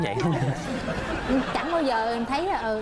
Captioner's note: laughs